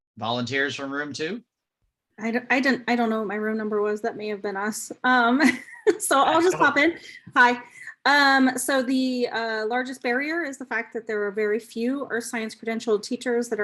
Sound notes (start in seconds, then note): 5.4 chuckles